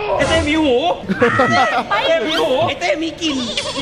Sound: pat

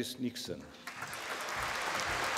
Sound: applause

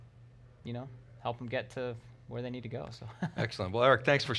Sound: chuckles

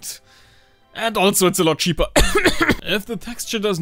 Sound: coughs

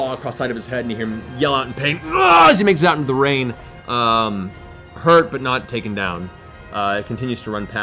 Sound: scream

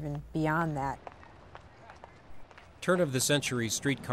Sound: people walking

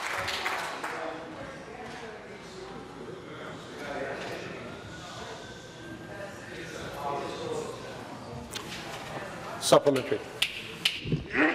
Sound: applause

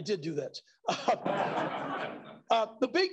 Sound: laughter

